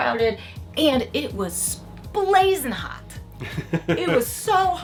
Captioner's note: laughing